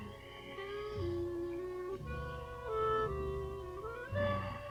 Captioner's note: Bill and Hazel moaning